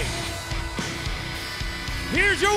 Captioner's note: bell ringing